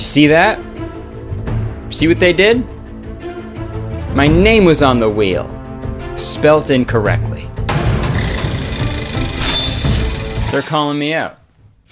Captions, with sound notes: - Did you see that? See what they did? My name was on the wheel, spelt incorrectly. (dramatic music) (wheel clicking) They're calling me out.